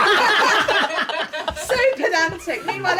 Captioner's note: laughing